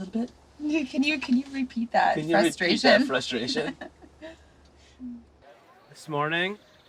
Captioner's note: chuckles